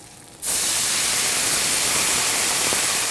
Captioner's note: loud sizzling sounds